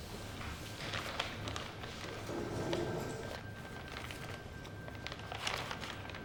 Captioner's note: paper crumples; suspenseful music